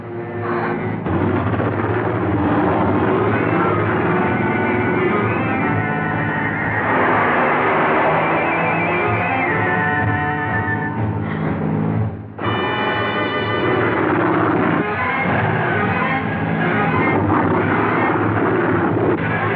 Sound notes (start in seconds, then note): 1.1 motorcycles Approaching